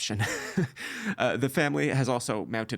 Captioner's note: laughing